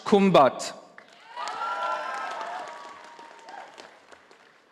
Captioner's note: audience applauding